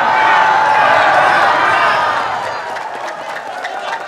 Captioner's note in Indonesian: tepuk tangan